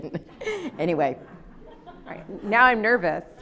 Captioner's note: laughs